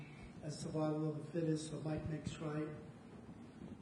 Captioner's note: voice fades